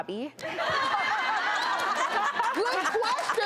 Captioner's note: audience laughter